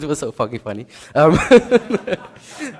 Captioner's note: laughs